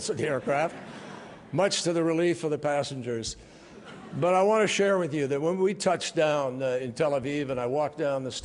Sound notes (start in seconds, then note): 3.7 laughter